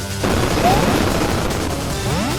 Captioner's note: insert Mario All-Stars jump SFX